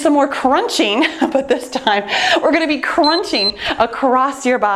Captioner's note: timer beeping